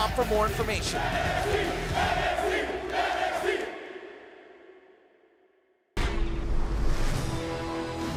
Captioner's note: fans chanting